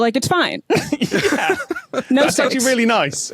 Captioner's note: laugh